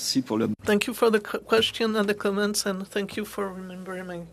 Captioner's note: speaking French